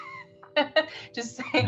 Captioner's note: laughs